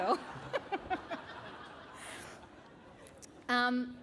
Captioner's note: laughter